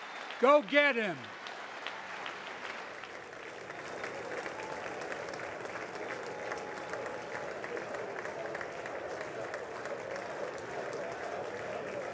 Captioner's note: applause